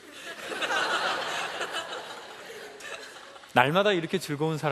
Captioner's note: laughs